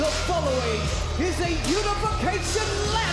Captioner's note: bell rings